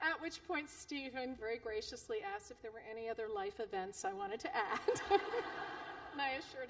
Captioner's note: laughter